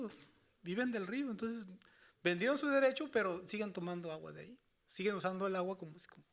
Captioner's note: speaking Spanish continues